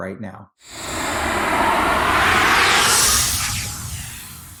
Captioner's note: logo whooshing